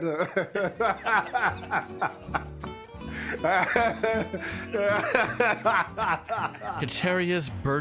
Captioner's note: laughs